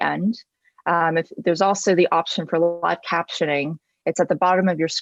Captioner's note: murmurs